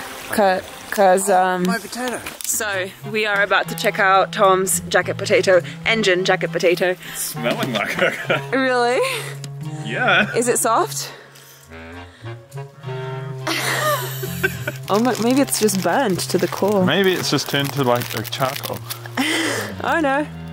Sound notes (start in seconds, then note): 8.1 playful music; 13.0 playful music continues; 13.4 laughing